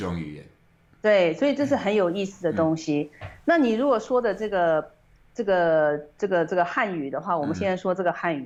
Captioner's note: Mandarin